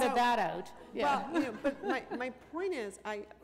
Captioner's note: laughter